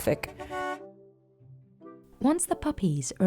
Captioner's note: horn honking